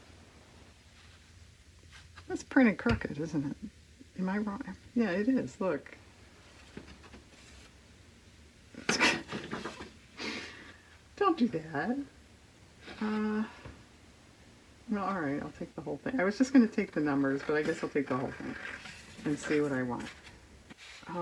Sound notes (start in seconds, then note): 8.8 laughs